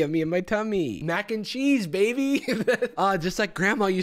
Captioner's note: laughs